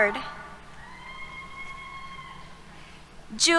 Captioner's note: cheers